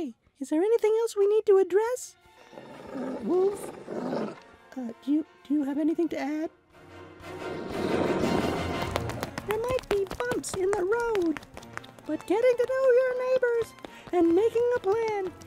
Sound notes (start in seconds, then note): 0.0 woodrat clapping; 6.9 suspenseful music; 8.4 footsteps tapping